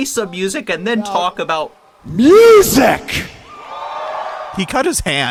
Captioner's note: audience cheers